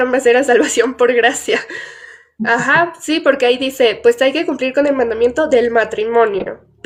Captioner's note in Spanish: risas